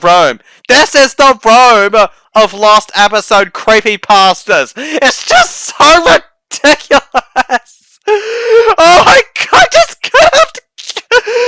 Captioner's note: non-stop laughing